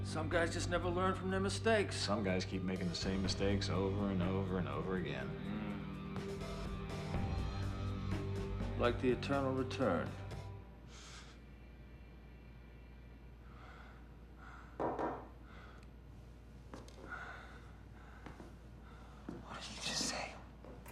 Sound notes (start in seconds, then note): 14.8 knocking at door